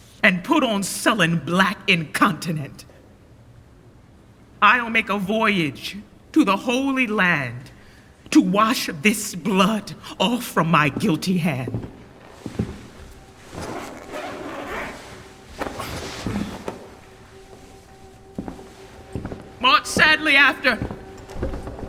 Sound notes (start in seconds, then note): 12.2 footsteps; 13.3 zipping; 18.1 footsteps